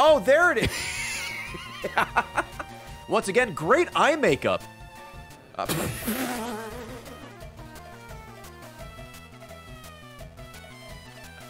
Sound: laughs

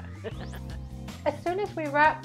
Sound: laughing

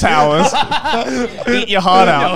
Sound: all laughing

